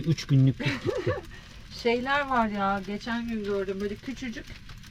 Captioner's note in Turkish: kahkaha